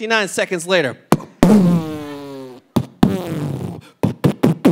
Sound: imitating fireworks

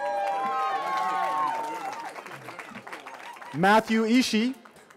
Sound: cheering

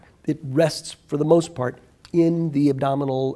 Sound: none

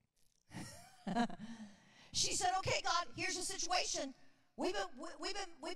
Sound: laughs

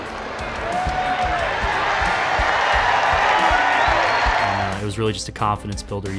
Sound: cheering

